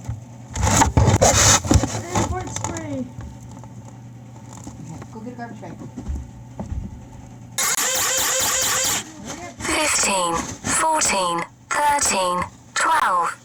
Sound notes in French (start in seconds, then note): 7.6 la pompe grince; 9.8 Voix robotique